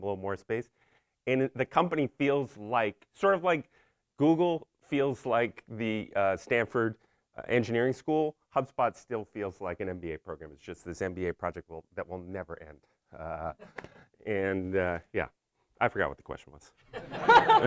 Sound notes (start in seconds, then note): 13.5 laughs; 16.9 crowd laughing